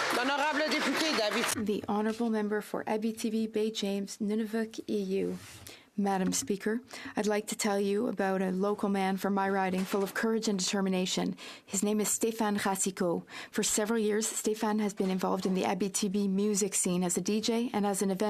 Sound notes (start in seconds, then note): 2.0 applause